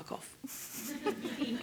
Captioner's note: laughter